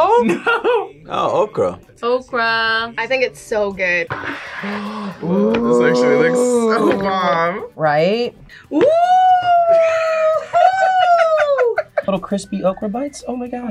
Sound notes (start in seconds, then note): 0.5 laughs; 4.2 gasps; 9.7 laughs